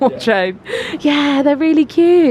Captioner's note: laughs